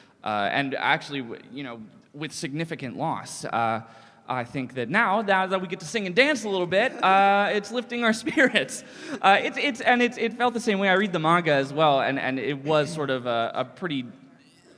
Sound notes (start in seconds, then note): 8.2 gentle laugh